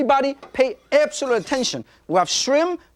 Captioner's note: moving wok on stove